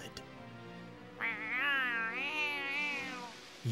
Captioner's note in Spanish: ronronea